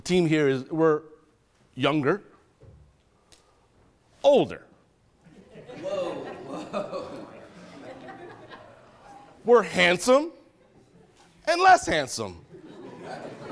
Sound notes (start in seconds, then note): 5.2 attendees laughing